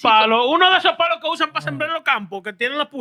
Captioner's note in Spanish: Hablando en idioma extranjero